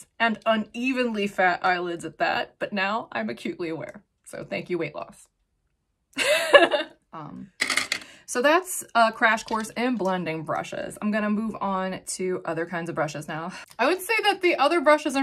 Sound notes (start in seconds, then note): 6.4 laughing; 7.5 makeup brushes clanking